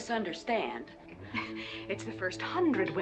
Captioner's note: scoffing